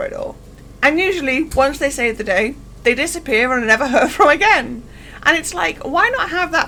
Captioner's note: laughs